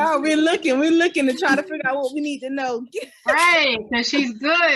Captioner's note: laughs